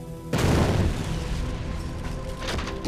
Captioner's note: explosion